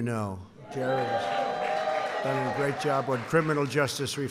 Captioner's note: applause